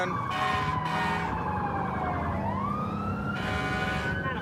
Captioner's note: emt sirens blaring